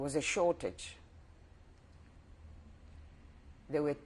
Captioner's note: pauses for 3 seconds